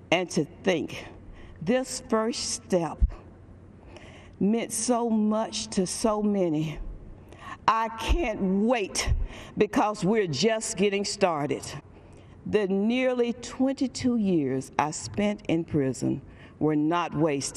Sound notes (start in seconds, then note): none